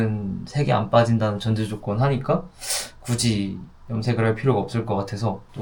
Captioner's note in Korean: 콧방귀